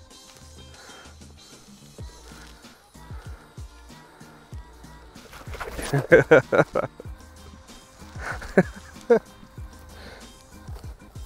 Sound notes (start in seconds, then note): 4.9 laughs